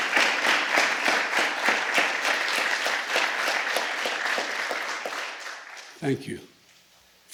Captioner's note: applause